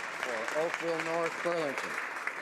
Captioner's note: some Applause